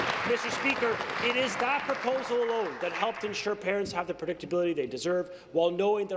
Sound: applause

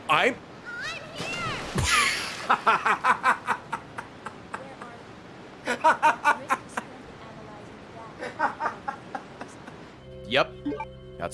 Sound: laughs

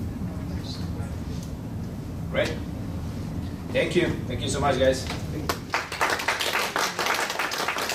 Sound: applause

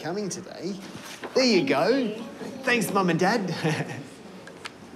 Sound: laughs

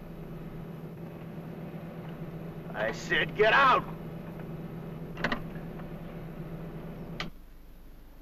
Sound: engine revs

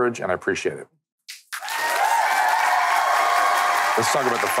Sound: audience cheering

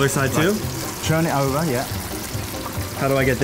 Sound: pops

